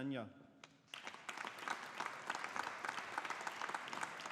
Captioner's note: audience applauding